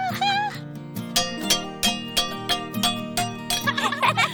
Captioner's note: clanging; giggling